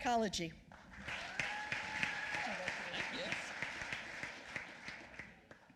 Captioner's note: applause